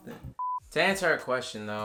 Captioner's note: beep